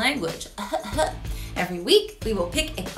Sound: feigning coughing

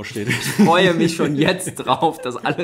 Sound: laughs

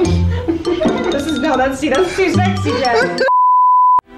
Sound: bells chiming; both chattering; beep

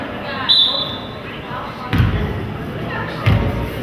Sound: whistle blows

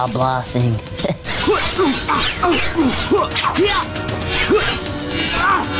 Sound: grunting

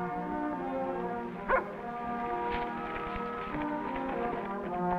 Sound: dog barks; orchestral music

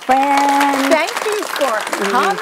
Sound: audience applauds

